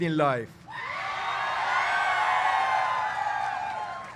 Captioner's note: cheers